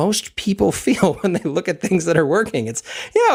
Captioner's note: laugh